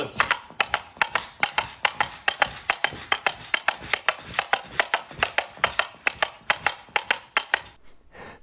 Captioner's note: horses hooves